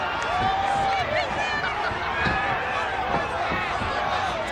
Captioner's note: audience cheers